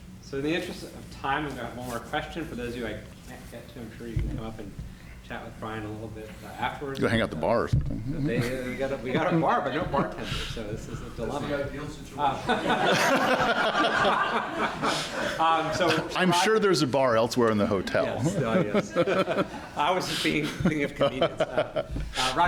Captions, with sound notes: So in the interest of time, I'm going to have one question. For those of you I can't get to, I'm sure you can come up and chat with Brian a little bit afterwards. Go hang out at the bar or something. We got our bar but no bartender. So this is a dilemma. This is the ideal situation. [LAUGHTER] I'm sure there's a bar elsewhere in the hotel. Yes. I was thinking of convenience.